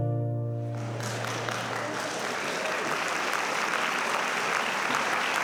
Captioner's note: audience applauding